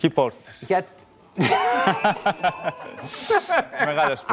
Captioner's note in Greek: Και τα δύο γελούν